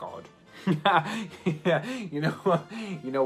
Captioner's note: laughing